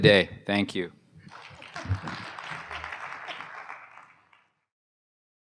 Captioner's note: applause